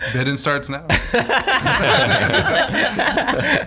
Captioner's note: laughing